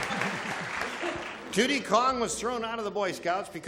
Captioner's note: applause